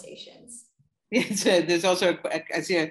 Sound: laughter

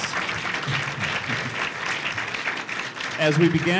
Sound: applause

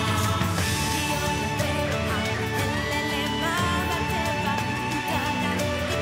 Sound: woman chants in foreign language

